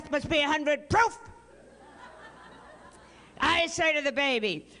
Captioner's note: laughter